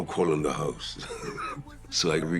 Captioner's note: laughs